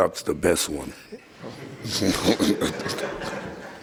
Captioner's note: laughing